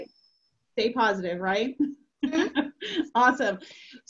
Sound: laughs

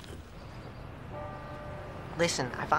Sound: bell chimes

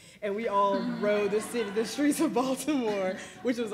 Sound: laugh; laughs

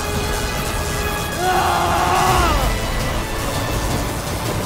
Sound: grunting

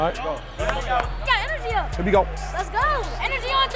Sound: overlapping chattering

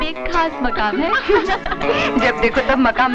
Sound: laughs

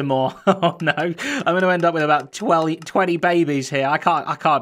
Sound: chuckles

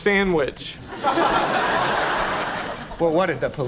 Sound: audience laughing

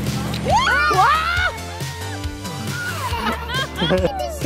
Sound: joyful screaming

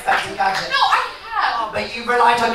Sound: audience laughs

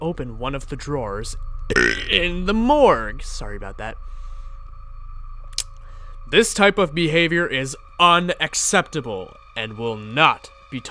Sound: burps

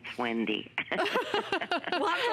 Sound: laughter

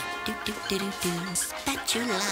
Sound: humming

